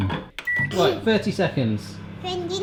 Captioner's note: beep